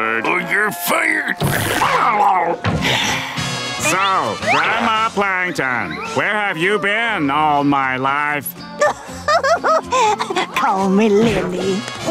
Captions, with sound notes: Or you're fired. [sighing] So, Grandma Plankton, where have you been all my life? [chuckles] Call me Lily.